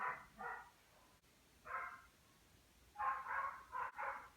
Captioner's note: dog barking